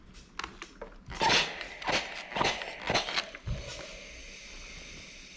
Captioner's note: steam spray squeaking